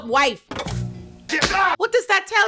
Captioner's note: gunshots